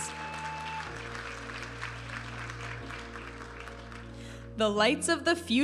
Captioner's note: audience applauding and cheering